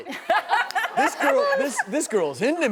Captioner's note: audience laughing